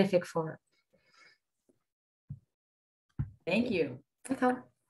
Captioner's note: silence